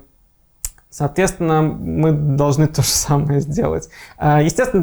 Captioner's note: laughing